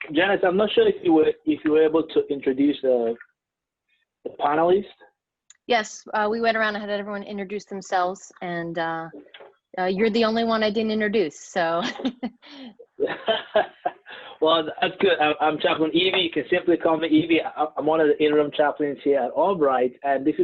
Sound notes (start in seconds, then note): 12.8 chuckles